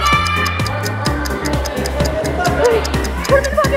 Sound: everyone shouting

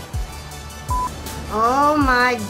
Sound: audio beeps

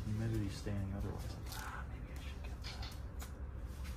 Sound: whispering

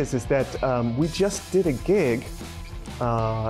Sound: none

